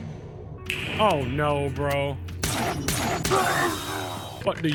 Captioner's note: gun fires